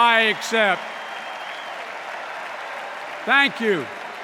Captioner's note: cheers and applause; extended cheers and applause